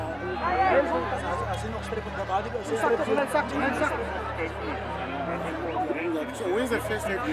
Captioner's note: speakingi n afrikaans